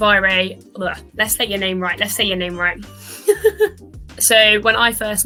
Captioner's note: laughs